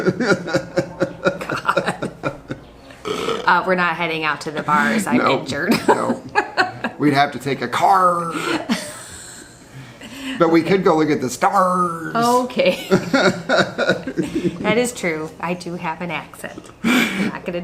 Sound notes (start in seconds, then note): 0.0 laughs; 5.6 laughs; 8.4 chuckles; 12.6 laughs; 12.7 chuckles